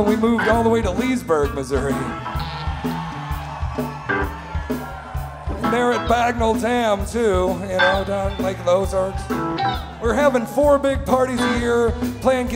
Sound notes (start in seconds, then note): 2.6 crowd cheering